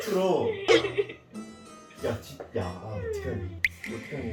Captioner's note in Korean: 울음 터진